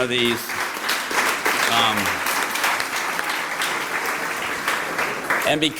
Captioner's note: applause